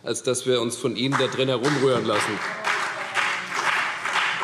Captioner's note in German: Beifall CDU und vereinzelt BÜNDNIS 90/DIE GRÜNEN